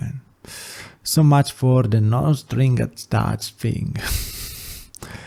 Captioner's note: soft laugh